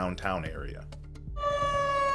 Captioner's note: sirens